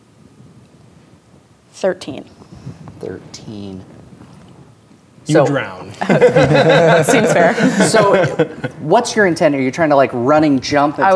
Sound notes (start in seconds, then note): 6.0 players laughing